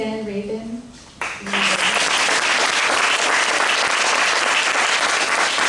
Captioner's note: applause